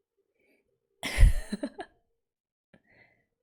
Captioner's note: laughs